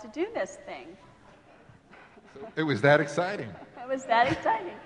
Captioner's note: laughing